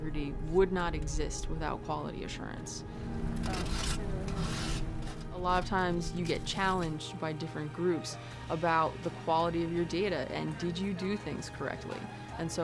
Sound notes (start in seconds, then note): 4.2 scraping of sieve